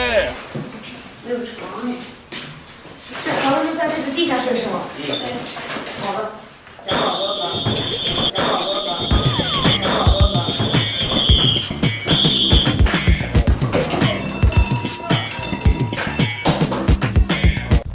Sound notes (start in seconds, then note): 6.9 whistle; 6.9 whistle again